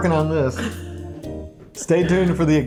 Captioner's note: chuckles